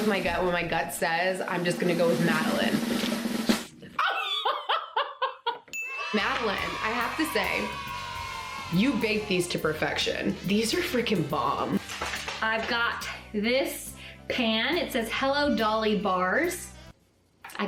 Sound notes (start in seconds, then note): 5.8 children cheering sound